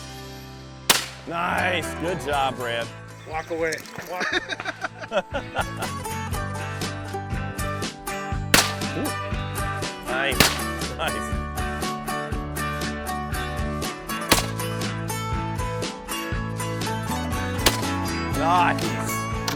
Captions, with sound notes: - [Voiceover] Nice, nice. Good job, Brad. - [Voiceover] Walk away, walk away. - Pull. (gunfire shot) (gunfire shot) (gunfire shot) (gunfire shot)